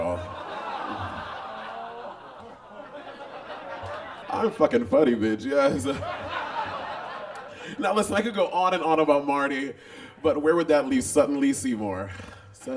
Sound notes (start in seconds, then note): 0.0 audience groans and laughs; 6.3 audience laughs